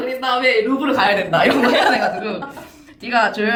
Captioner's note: laughs